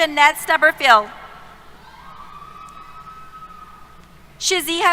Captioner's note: cheers